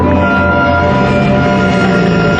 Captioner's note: growling